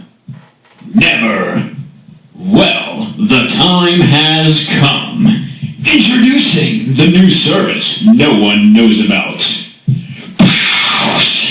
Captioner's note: explosionnoise